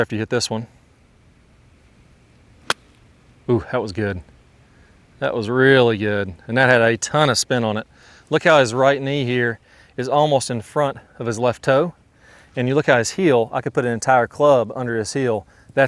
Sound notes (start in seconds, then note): 2.6 club knocking the ball